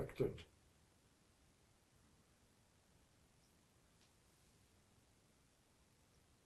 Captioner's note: pauses 8 seconds